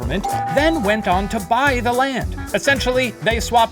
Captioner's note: doorbell rings